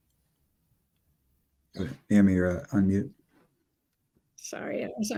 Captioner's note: pause